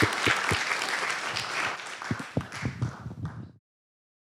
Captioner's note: applause